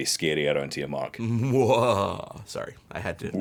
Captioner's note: laughs evilly